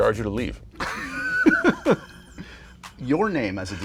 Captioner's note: laughter